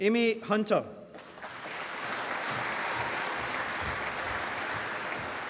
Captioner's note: applause